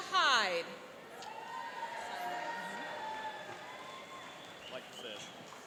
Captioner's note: cheering and applauding